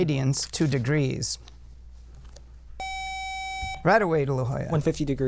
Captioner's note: buzzer